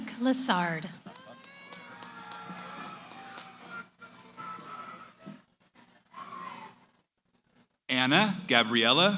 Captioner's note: cheering